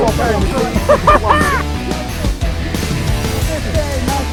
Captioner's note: laughs